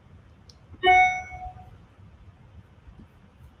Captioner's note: beeping